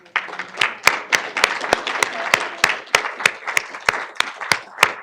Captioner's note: audience clapping